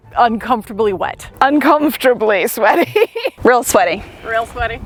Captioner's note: laughs